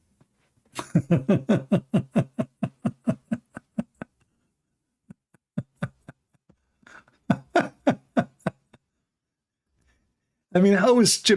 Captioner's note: Ketawa